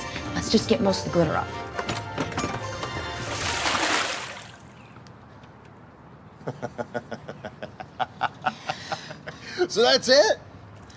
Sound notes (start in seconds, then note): 3.2 water splashing; 3.8 bright music; 6.4 Travis laughing